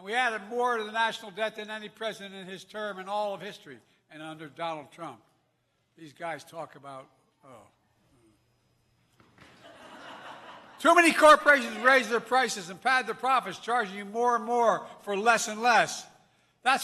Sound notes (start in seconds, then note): 9.4 laughter